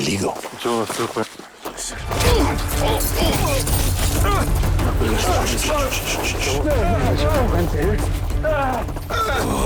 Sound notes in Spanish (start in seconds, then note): 2.2 Ruidos y exclamaciones del forcejeo